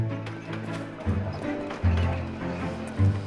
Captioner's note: trolley bell ringing, wheels clacking on tracks